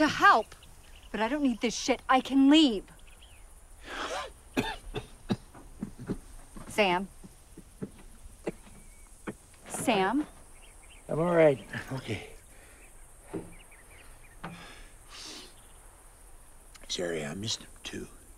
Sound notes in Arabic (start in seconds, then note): 4.5 سعال